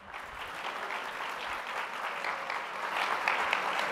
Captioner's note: crowd clapping